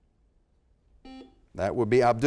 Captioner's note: buzzer sounds